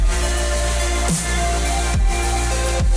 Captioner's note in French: none